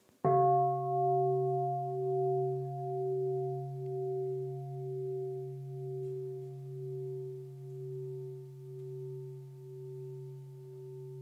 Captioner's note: bell